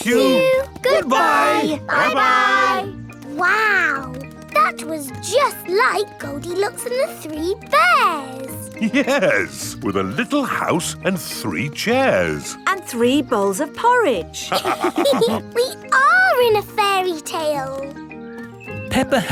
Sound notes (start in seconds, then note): 8.7 chuckling; 14.5 all laughing